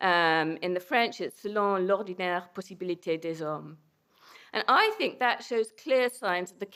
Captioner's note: non-english